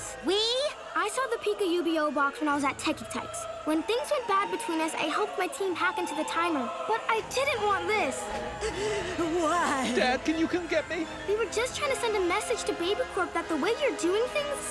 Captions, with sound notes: -"We"? -I saw the Peek-a-UBO Box at Techy Tykes. When things went bad between us, I helped my team hack the timer. But I didn't want this. -[gasps] Why? -Dad, can you come get me? We were trying to send a message to Baby Corp--